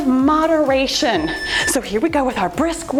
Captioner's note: timer beeps